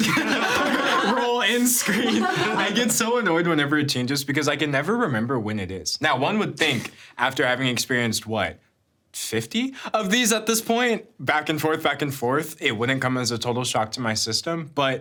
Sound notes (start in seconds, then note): 0.0 everyone laughing; 6.7 chuckling